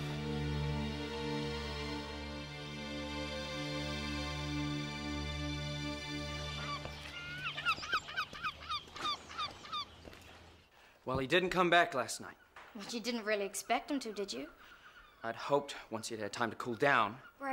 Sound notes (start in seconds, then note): 0.0 tense music; 6.5 seagull squawking